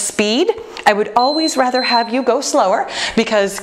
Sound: timer beeping

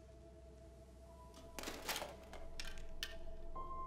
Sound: objects clatter

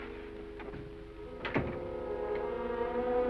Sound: door closes

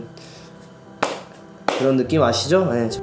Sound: slap

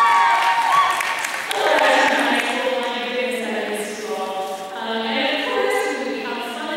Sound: applause

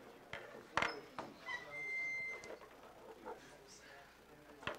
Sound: students chatting

